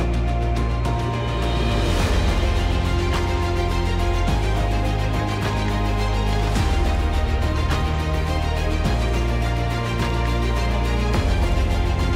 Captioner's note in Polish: Aplauz